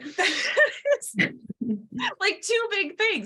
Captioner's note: laughs